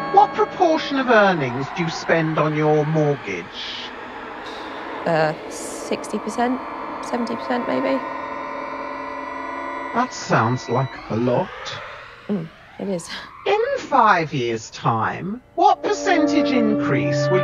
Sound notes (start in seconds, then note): 13.2 laughs; 16.6 discordant music